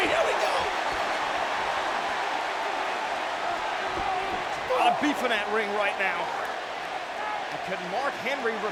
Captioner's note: applause